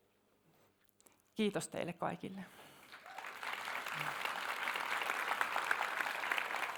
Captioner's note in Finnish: aplodeja